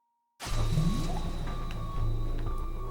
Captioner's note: breaking sound of popping out of time freeze